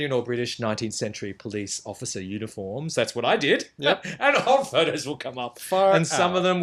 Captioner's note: laughs